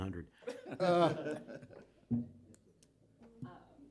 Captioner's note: laughter